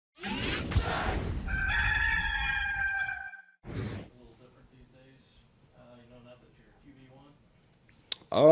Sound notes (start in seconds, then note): 0.2 mechanical whirring; 1.4 rooster crowing